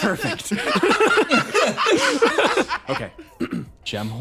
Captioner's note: laughs